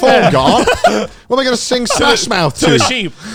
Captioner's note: both laughing